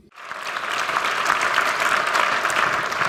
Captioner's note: applause